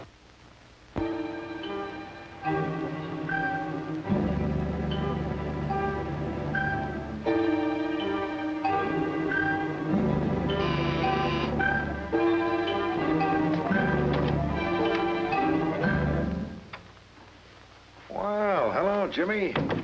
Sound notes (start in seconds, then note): 0.8 dramatic music; 10.5 doorbell buzzes; 13.8 door opens